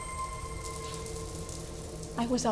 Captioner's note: water splattering